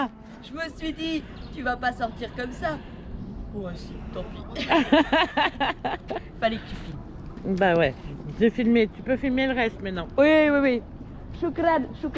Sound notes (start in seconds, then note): 4.5 laughs